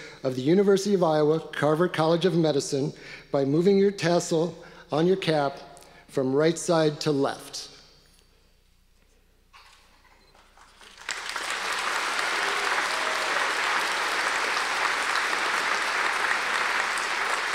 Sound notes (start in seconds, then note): 10.5 audience applause